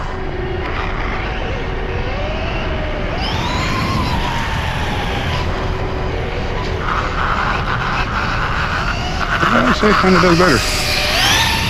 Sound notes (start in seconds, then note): 3.9 electric motor screaming